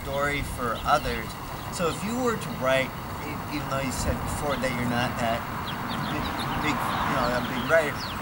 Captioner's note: car drives